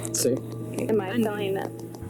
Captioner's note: recording playback